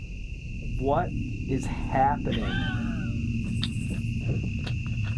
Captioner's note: laughter